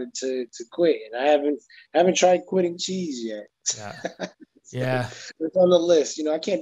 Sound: laughs

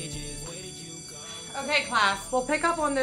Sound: bell ringing

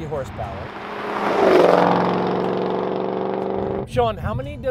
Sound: car engine roars

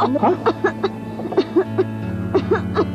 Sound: coughing continues

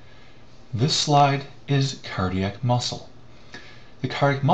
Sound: voiceover

